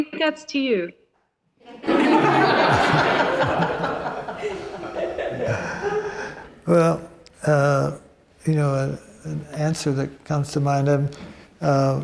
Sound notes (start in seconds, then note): 3.5 audience laughs